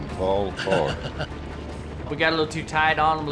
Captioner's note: laughing